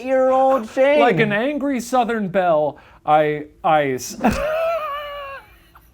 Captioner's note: laughs